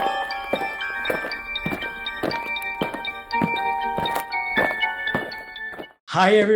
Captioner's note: eerie music; aliens marching